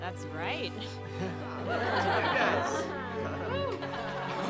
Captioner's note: class laughs